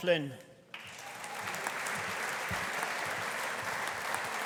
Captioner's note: audience applauding